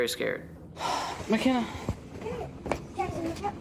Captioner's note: sighs